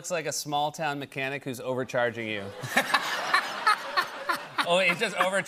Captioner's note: laughter